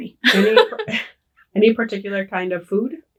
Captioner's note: laughing